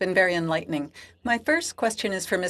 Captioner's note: speaking French